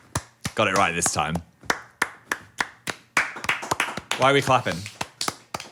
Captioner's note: Dan and Phil clapping